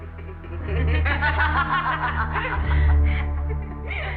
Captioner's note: laughing